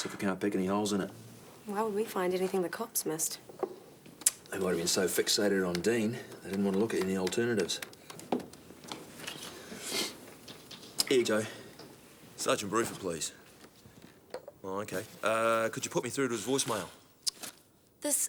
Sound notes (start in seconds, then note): 9.8 John sniffs